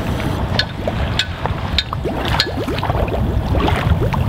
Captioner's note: water gurgling